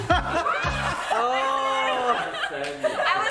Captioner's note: all laugh